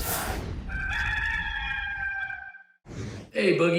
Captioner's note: rooster crows